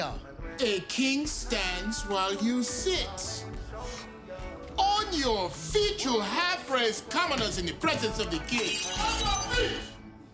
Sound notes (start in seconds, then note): 8.3 glass shattering